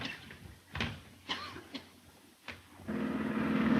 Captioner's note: Mary coughing; airplane motor revving